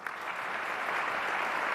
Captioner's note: applause